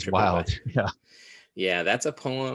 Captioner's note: chuckles